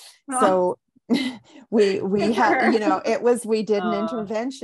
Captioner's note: laughs